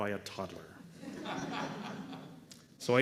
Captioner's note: laughter